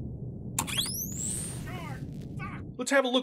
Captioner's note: Civvie's distant swearing; electric shock